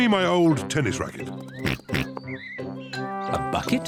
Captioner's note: oinks